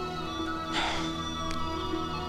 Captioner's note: Sighs